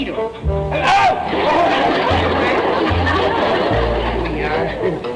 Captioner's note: audince laughter